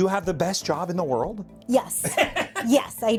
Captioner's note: laughing